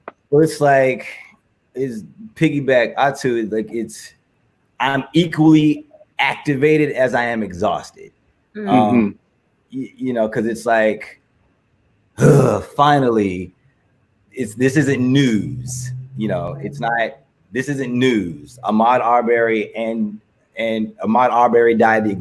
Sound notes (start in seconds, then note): 12.2 grunts